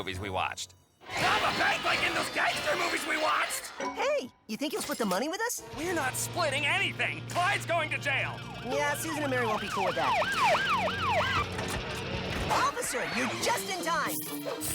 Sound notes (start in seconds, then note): 9.4 sirens wail